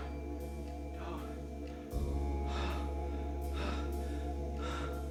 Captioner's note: breathing heavily